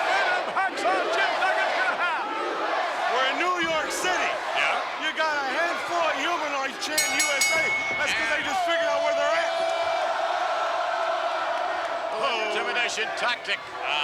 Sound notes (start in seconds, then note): 6.9 bell rings; 10.8 crowd chants "Hooo"